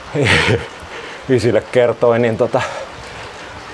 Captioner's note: laughs